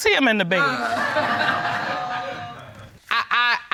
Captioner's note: audience laughs